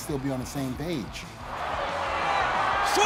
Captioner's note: applause